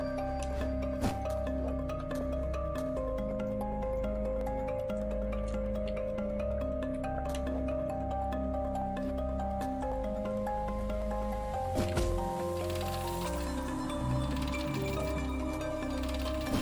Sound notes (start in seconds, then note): 13.8 humming along